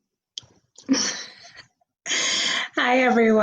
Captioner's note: laughs